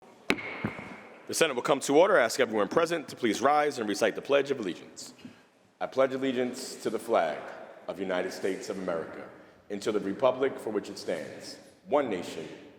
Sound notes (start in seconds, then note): 0.3 gavel bangs